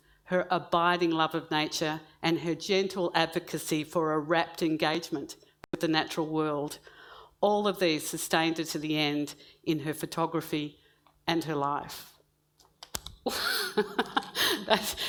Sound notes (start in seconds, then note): 13.3 laughs